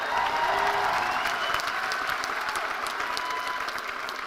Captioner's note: cheers and applause